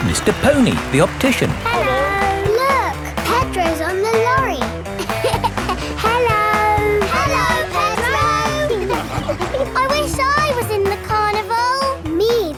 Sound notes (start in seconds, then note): 5.3 laughing